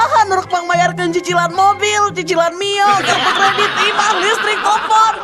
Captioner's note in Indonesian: tertawa